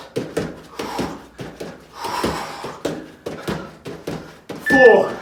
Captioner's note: exhales sharply